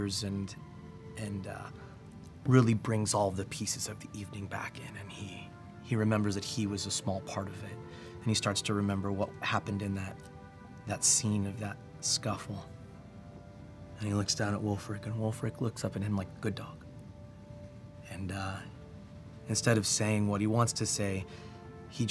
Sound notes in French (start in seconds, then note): none